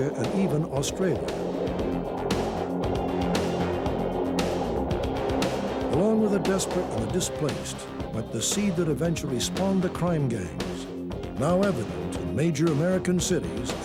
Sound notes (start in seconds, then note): 2.1 helicopter whirring